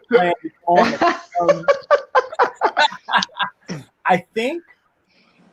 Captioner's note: laughing loudly